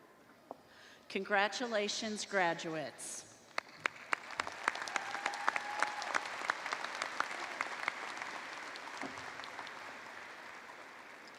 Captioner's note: cheers and applause